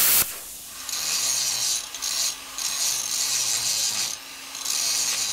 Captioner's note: grinder whirring